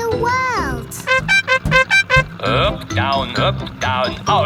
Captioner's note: horn beeping